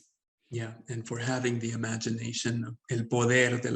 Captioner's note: speaks Spanish